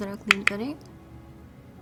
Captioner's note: taps brush